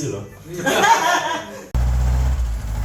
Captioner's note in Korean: 폭소